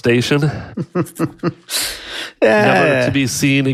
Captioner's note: laughs